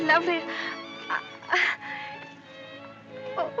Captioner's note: stuttering